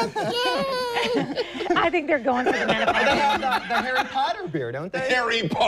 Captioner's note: laughing